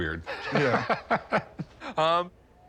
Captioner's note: laughter